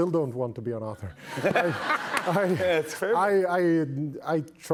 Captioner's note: laughter